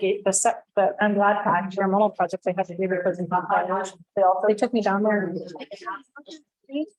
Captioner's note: multiple voices